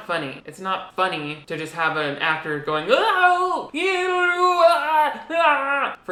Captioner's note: laughs